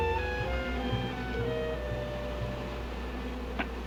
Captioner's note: buzzing